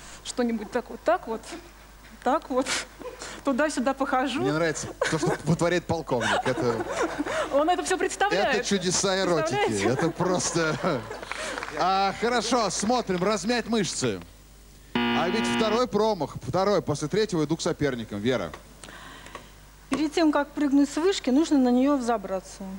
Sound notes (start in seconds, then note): 6.2 laughs